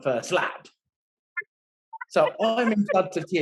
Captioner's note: laughing